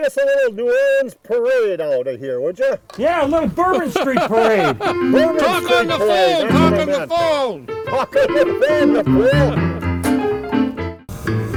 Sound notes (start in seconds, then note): 4.7 laughs